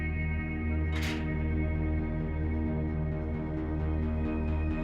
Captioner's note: gate clanking; soft upbeat music